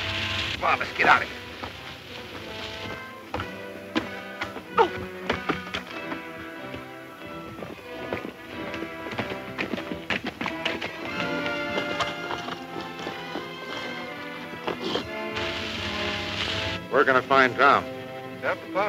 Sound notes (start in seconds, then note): 4.7 Mary gasps